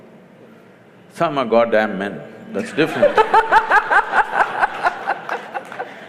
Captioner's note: laughter; 笑聲